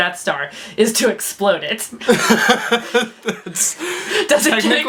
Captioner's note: laughs